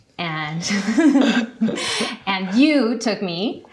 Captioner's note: both laughing